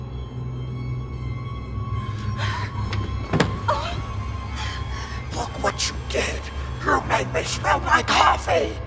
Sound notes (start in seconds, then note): 2.3 scared breathing; 5.7 demonic voice